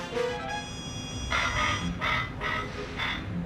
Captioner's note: robotic barking